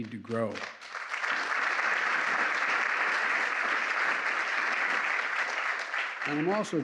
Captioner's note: applause